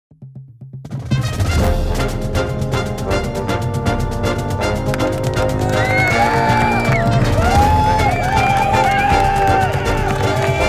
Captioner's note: crowds Cheering; marching Band Music